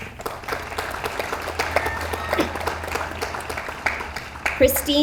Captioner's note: audience applauds